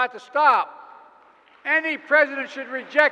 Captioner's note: applause